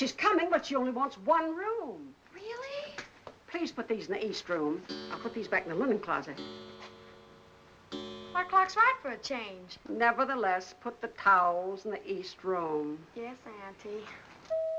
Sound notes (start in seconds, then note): 6.6 clock bell dinging; 14.6 doorbell rings